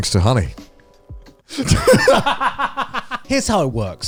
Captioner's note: laughing